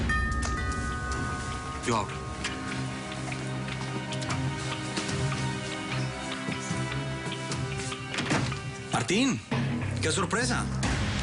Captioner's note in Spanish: Timbre de la puerta